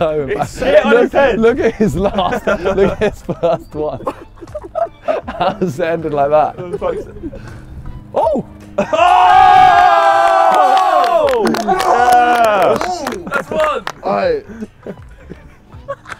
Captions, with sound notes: - He's sitting on his head. - Look at his last one, look, it's the last one. (men laughing) How is it ended like that? Oh! - Oh! (men clapping) - That's one! - All right!